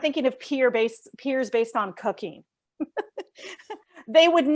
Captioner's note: laughs